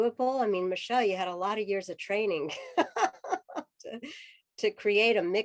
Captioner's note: laughter